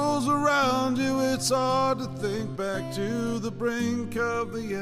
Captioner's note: none